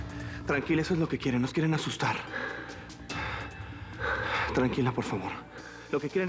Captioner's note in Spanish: respira aceleradamente